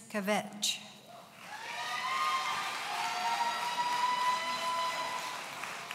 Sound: audience cheering

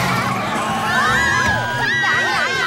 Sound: screaming

